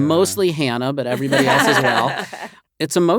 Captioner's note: all laugh